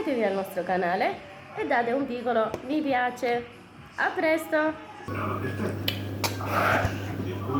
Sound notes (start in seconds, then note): 6.2 kisses